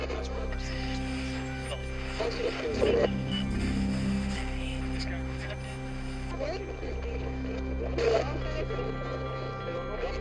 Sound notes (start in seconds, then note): 0.6 distorted feedback echoing; 0.6 static crackling